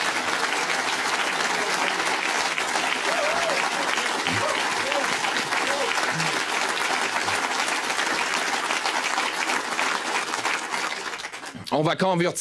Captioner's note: cheering and applause